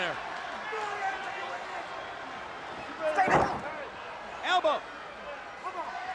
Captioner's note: crowd chatter